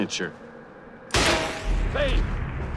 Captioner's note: gunshot